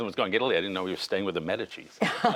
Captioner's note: laughter